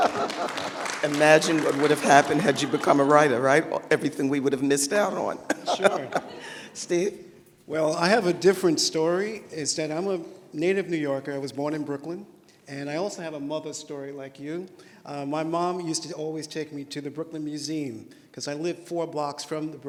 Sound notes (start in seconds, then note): 0.0 applause; 5.4 laughter